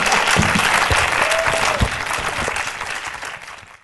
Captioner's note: applause